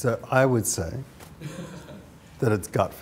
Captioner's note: laughter